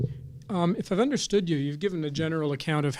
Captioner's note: voiceover